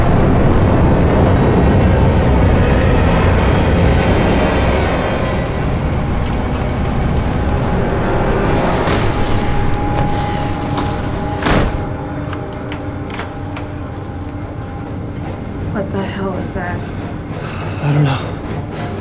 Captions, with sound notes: (Door opens and closes)(suspense music) "What the hell was that?" I dunno